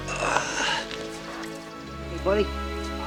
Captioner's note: groans